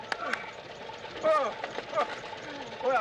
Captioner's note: exclaims